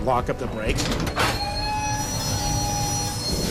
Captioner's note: brakes screeching